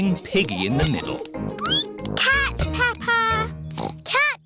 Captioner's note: squeaks; oinks